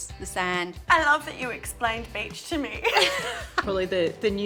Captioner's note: both laugh